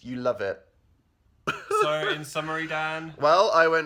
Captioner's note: laughs/cries